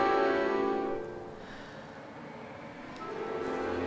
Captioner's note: sighs